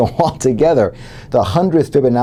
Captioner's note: laugh